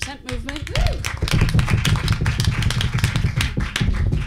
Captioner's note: audience applauding